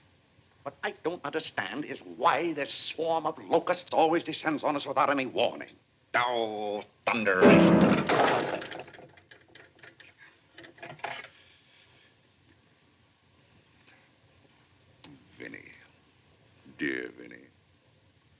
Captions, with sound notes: What I don't understand is why this swarm of locusts always descends on us without any warning. Oh, thunder! [slams piano keys] [thud] 'Vinnie, dear Vinnie.'